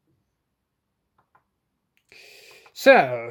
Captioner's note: laptop touchpad clicking sound